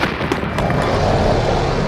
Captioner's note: roars